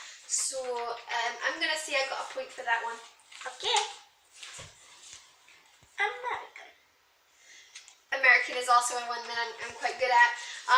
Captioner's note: good-ish American accent